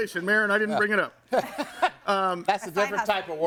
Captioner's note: laughs